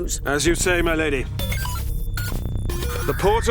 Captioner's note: portal beeps